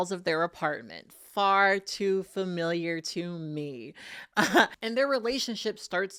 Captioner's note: laughs